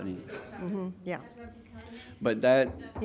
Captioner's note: angry chatter